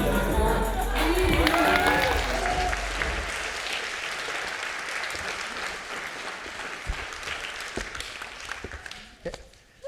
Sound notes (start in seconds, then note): 0.9 audience clapping